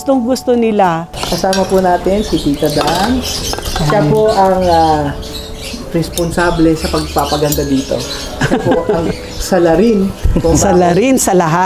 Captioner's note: laugh